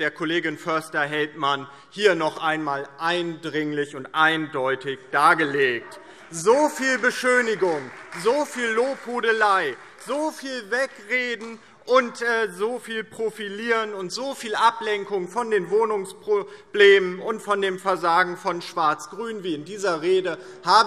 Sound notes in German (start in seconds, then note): 5.8 Beifall DIE LINKE und Freie Demokraten